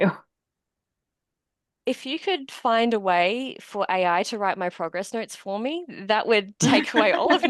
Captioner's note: laughter